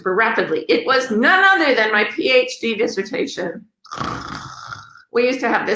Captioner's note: snores